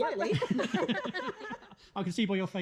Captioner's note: everyone laughs